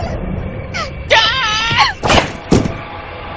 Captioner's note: yelling